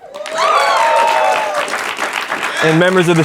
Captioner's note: student senate cheering and clapping